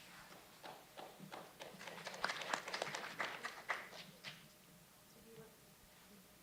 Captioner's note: applause